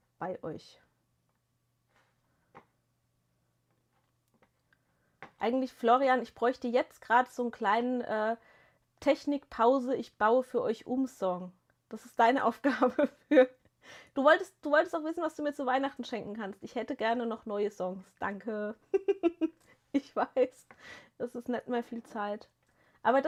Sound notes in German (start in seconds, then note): 12.7 gelächter